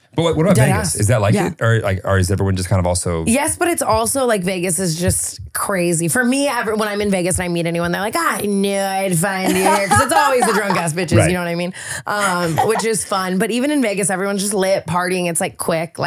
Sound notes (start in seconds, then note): 12.3 lauhging